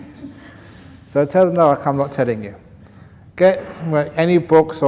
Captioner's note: laughs; laughter